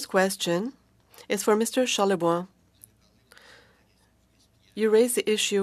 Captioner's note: speaking French